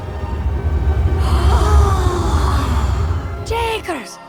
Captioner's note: kids gasps in awe and amazement